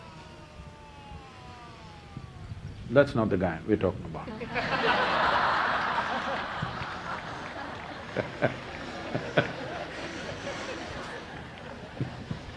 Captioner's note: laughter